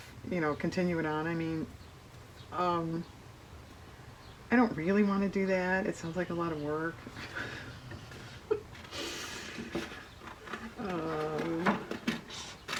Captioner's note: laughs